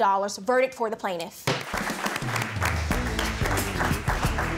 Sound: pounds gavel

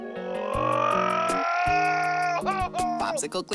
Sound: yelling

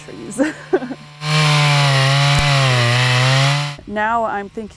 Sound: chainsaw buzzing

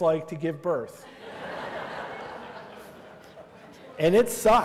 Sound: laughter

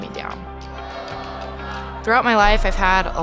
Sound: crowd chanting

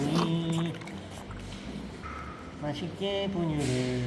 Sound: slurping formula ASMR

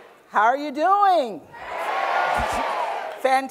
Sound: cheers and Applause

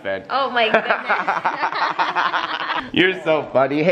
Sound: laugh

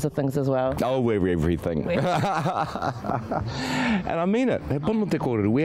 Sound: laughs

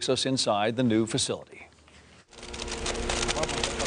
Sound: construction noise

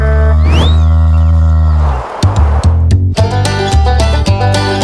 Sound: mooing

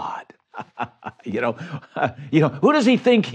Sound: chuckles

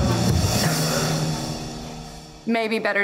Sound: suspenseful music; coughs

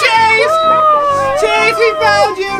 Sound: cheering

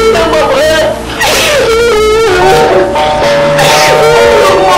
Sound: crying

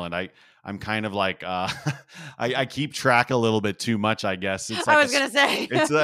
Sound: laugh; laugh

